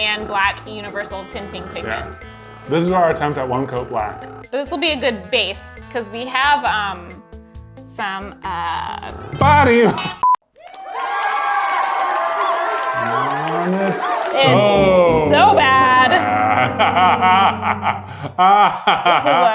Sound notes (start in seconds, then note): 10.2 beep; 11.2 audience cheering; 16.7 laughing